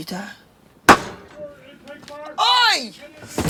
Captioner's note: thump